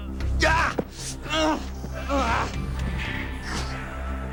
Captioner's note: Bruce groaning